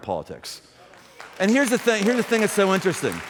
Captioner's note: applause